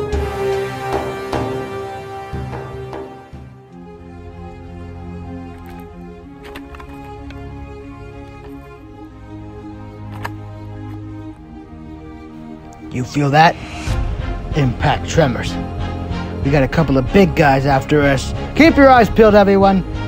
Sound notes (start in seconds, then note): 3.9 car shaking; 5.9 impact tremors